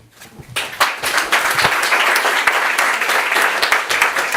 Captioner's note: audience applauds